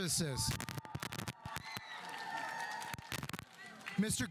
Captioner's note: audience applauding